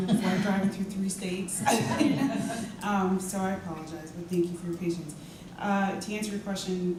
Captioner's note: laugh